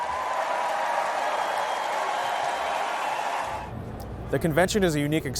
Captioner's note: crowd cheers